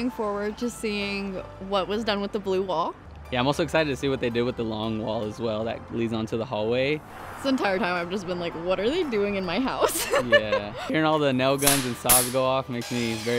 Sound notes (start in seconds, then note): 9.9 giggles